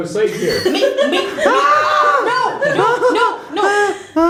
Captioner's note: goblin screams; whimpering